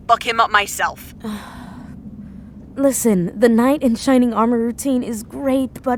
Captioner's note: sighing